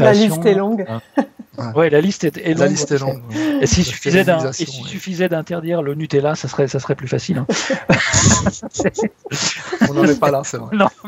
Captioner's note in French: rires